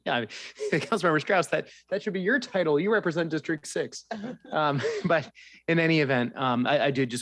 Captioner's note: laughter